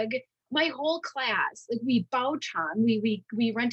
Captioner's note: speaking in Mandarin